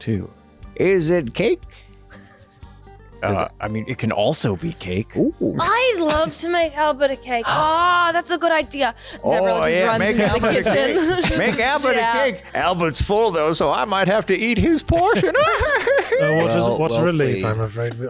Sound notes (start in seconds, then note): 15.0 laughs